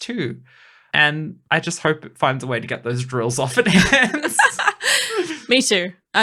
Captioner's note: laughing